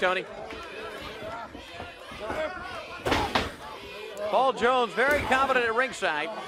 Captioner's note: crowd cheering